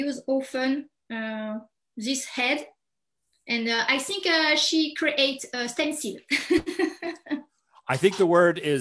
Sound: chuckles

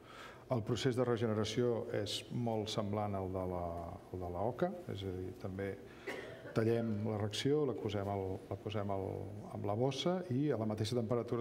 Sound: speaking catalan

